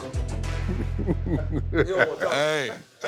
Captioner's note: chuckles